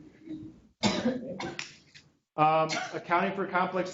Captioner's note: student coughs